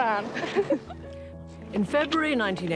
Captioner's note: both laughing